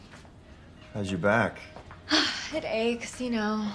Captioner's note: sighing